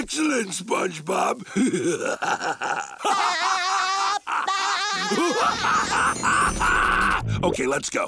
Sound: laughing

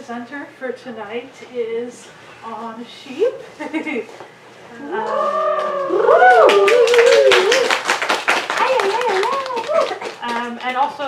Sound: audience applause

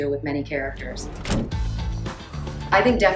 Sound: car door slides

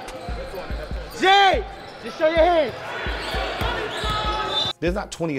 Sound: overlapping chattering

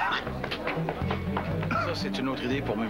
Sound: tousse

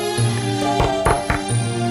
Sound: knock on the door

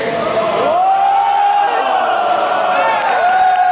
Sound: cheering

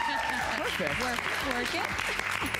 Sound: applause

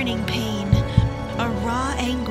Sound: heartbeat

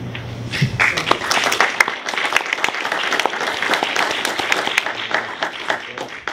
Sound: applause

